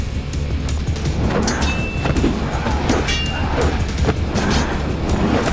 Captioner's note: metal clinking; whooshing